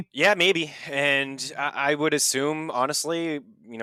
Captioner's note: laughs; sighs